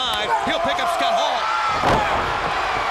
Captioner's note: body slamming; crowd cheering